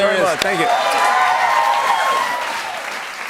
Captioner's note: cheers and applause